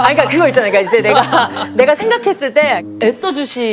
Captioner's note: laugh until the end